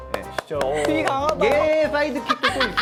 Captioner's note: A round of applause